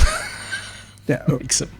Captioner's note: laughs